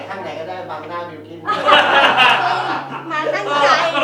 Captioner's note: laughs